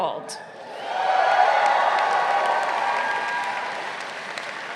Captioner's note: crowd cheering